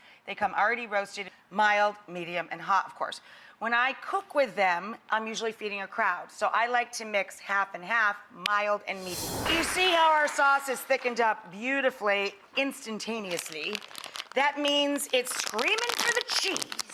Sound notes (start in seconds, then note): 8.9 air whooshing